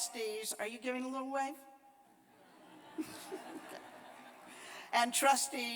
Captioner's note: laughter